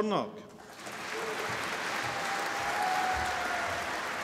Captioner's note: applause